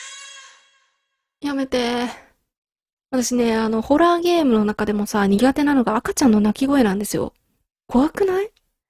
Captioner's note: baby's cry